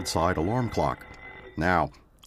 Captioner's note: ringing stops